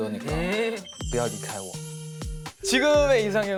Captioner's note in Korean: 중국어로